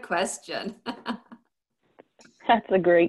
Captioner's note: laughs